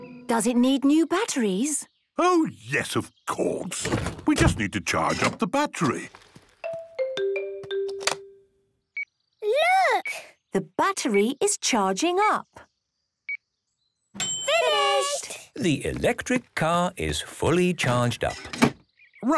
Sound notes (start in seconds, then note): 7.8 clicks; 9.0 meter beeping; 14.2 dings